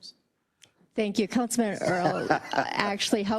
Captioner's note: laugh